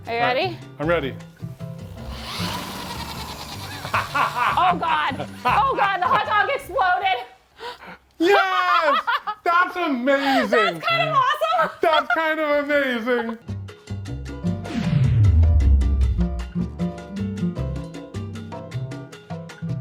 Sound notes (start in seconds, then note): 1.8 power drill whirring; 3.6 laughs; 12.4 gentle bright music